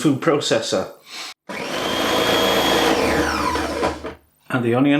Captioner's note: motor sound